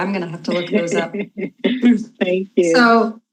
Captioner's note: chuckles